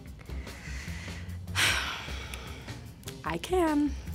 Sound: sighs

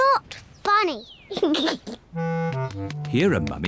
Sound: giggles

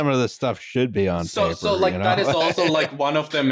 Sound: laughs

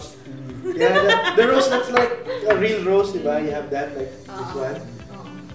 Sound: laughs

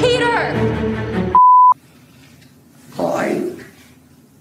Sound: beep

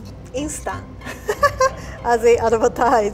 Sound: laughing

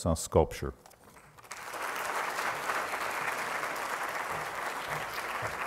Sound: applause

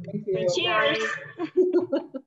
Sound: woman chuckles

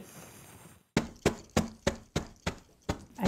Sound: hammering

